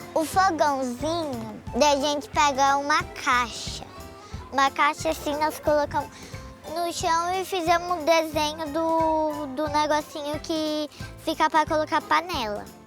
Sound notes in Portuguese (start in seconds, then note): none